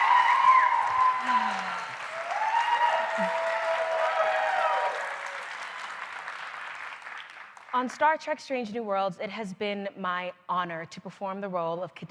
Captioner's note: applause